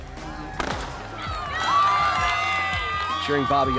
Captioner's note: gun fires, crowd cheers